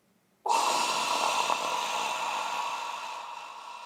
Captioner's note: man exhaling